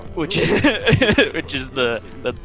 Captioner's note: laughing